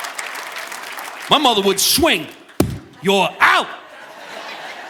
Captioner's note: audience applauding; mimics a knock